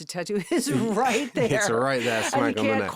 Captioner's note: Josh laughing; laughing